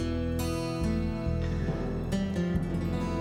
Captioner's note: sighs